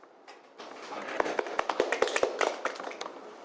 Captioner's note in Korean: 박수